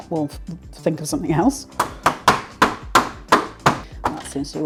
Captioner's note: bang bang bang